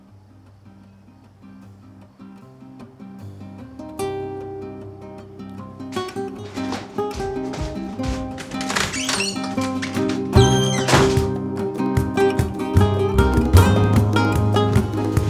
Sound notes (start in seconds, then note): 0.2 brooding acoustic guitar music; 8.9 door creaks; 10.9 door slams